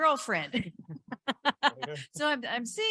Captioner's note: laughing